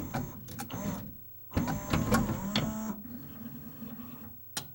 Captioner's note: tray whir; a similar but wavering whir as disc clamp engages; laser moves and clicks as it checks for disc